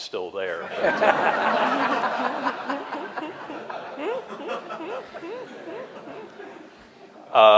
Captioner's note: laughter